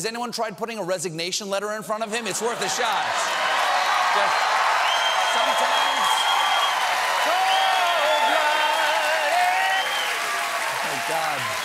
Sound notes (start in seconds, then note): 2.2 cheers and applause